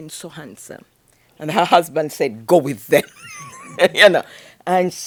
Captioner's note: laughs